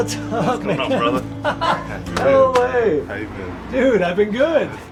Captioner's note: laughing